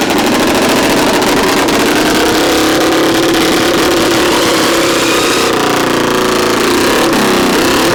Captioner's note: engine roars